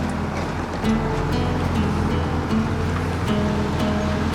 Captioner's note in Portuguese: Ronco do motor